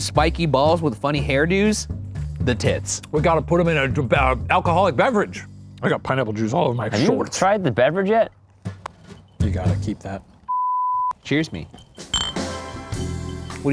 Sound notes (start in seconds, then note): 10.5 screen beeping; 12.0 placid music